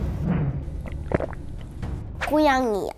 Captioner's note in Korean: 침 꼴깍